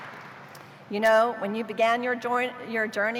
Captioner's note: applause